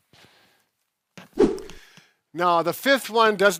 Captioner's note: whooshing